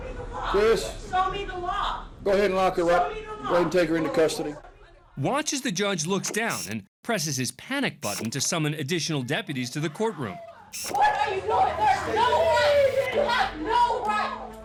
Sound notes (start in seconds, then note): 10.8 indistinct chatter, screaming